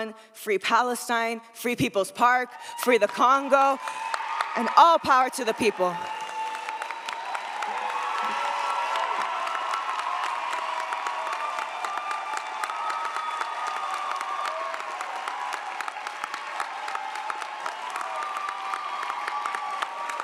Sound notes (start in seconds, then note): 6.3 audience applauds; 6.3 audience cheers